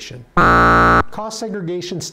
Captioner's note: buzzer